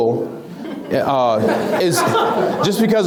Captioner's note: laughs